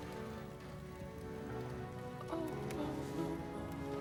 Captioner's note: moan